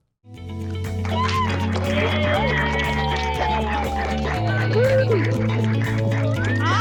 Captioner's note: cheers and applause